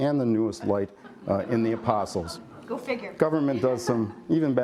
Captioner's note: laughter